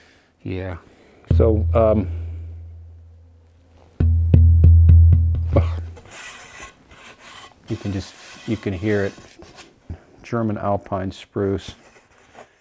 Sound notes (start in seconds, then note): 4.0 hollow thuds